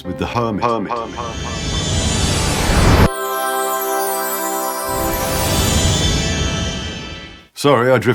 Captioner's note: whooshing sound